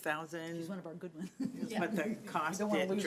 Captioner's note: laughs